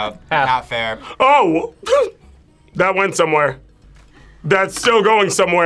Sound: laughs

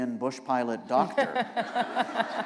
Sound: laughter

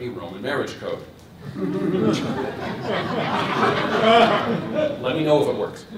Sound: laughter

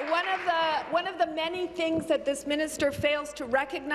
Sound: applause

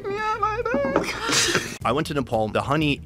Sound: both laugh

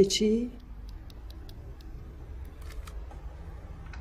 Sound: typing

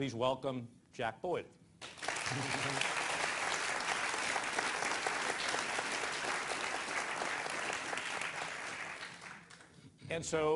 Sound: applause

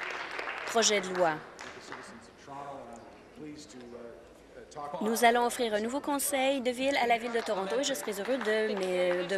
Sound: applause

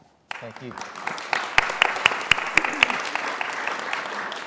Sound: applause

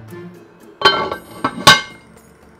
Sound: lid clanking

